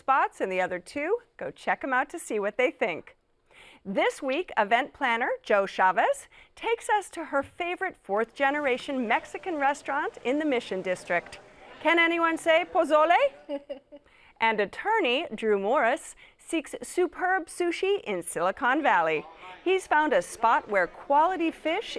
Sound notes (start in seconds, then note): 13.2 laughter